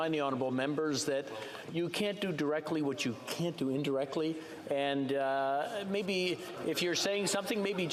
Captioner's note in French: voix de l'interprète